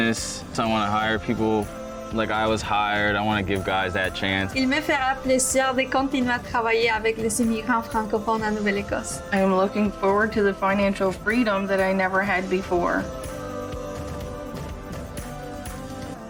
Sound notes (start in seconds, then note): 4.9 woman speaking foreign language; 13.4 uplifting music